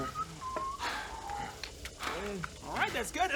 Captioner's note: heavy breathing